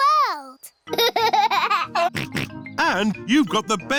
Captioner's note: laughs and snorts